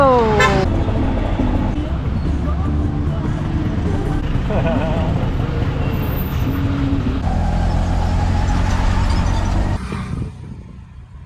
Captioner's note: auto engine